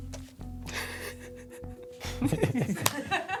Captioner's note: laughter